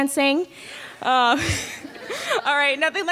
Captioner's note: laughs